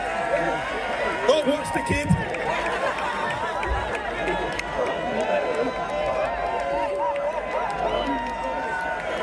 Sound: laughter

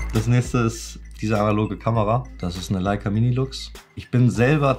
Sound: speaking foreign language

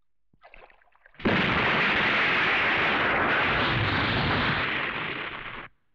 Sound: explosion

